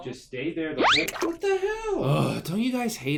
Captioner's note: water dripping